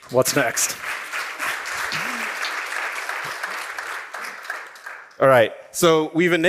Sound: applause

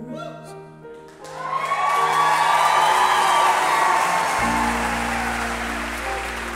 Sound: loud cheering and applause

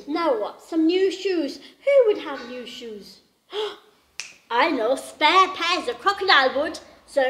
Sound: clicks fingers

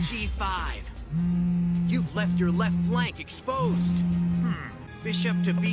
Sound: buzz

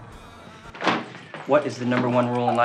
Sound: desk slamming

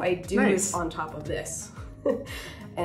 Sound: laughing

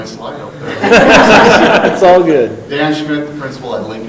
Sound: laughing

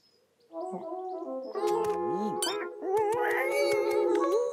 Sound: ping! Bee sting

